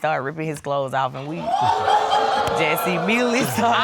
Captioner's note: audience laugh